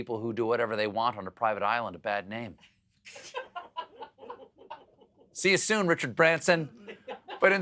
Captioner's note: laughter